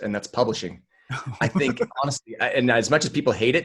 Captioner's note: laughing